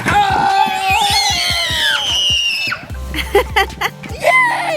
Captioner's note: cheering; laughing